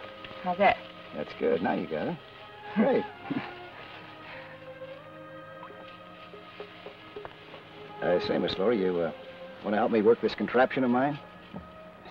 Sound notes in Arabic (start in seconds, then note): 2.8 يضحك